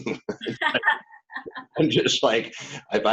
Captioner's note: laughing